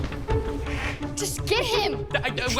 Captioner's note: hisses